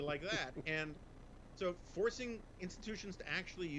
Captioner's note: laughs